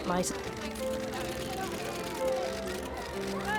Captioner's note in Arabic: الناس يهتفون